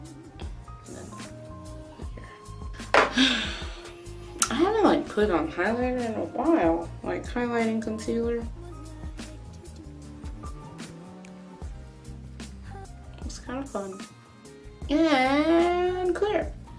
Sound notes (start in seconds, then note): 1.7 sighs